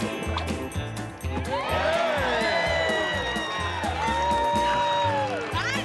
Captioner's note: lasso whipping; cheering